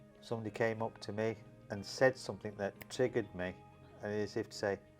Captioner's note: snaps fingers